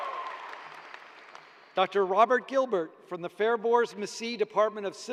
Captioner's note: cheers and applause